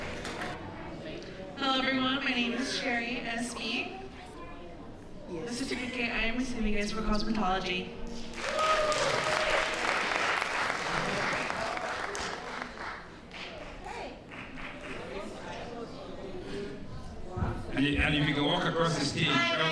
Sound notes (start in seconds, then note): 8.2 applause